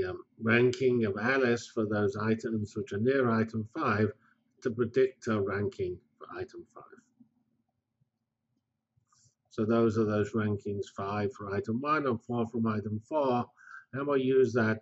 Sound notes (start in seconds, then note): 7.4 pause